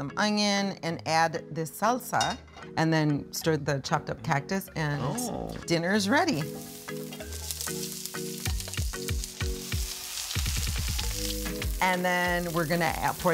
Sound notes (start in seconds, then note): 5.4 oil sizzling; 6.3 mellow synth music